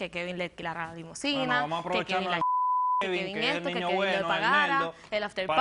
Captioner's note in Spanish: Bip